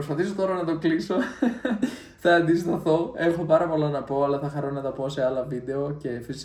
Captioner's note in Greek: γέλια